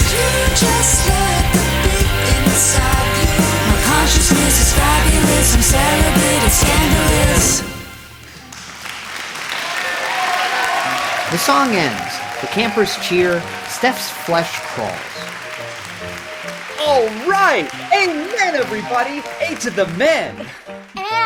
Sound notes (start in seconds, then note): 8.7 audience applauding